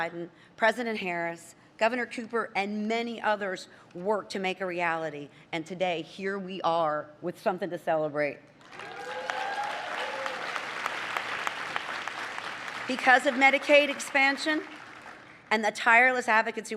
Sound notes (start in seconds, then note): 8.6 applause